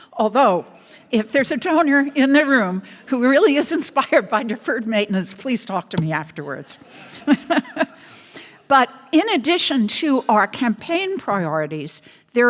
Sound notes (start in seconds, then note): 6.8 laughs; 7.2 audience laughs